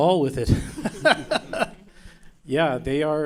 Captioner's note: laughing